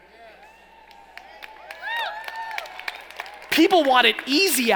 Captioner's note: cheering